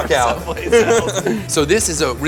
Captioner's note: laughs